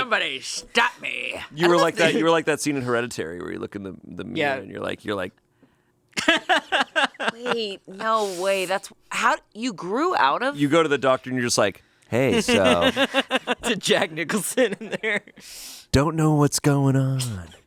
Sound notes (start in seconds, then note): 6.2 laughs